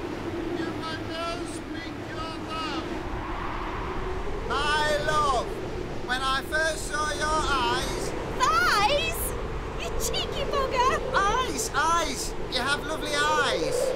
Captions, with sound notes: MAN You may now speak your vows [shouting] My love When I first saw your eyes Thighs?! You cheeky bugger! Eyes! Eyes! You have lovely eyes!